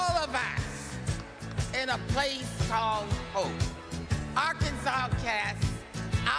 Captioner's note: applause